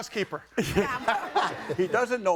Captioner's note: audience laughing